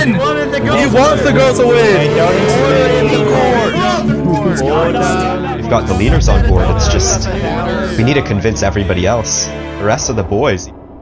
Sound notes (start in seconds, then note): 0.2 shouting; 2.6 chaotic chatter